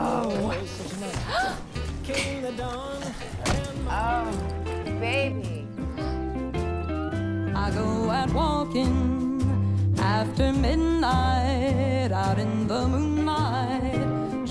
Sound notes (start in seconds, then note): 0.0 gasps